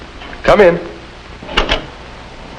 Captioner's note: door opens